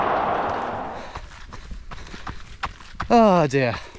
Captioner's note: gravel crunching